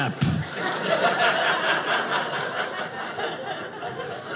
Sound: audience laughing

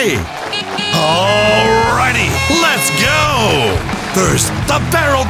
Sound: car horns honking

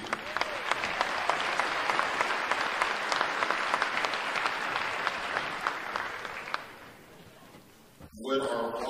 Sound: applause

